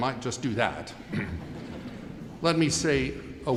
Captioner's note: audience chuckling